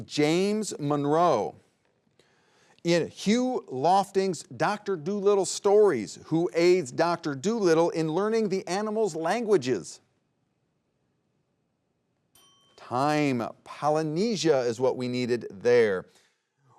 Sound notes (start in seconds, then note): 12.3 bell dings